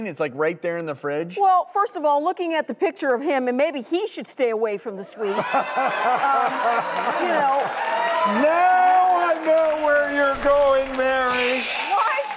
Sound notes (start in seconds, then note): 5.2 laughing and applauding